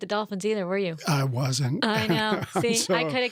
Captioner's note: laughs